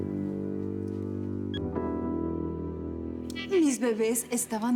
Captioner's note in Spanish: Suena el celular